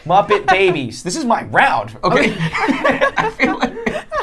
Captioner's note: laughing